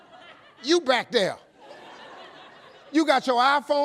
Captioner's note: audience laughing